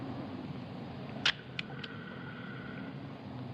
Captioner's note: camera clicks